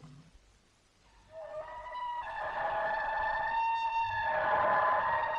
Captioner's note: scary howling